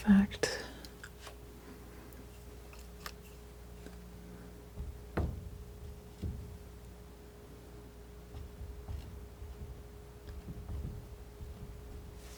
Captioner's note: scraping